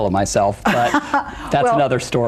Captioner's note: laughs